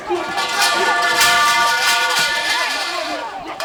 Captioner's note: pipes clank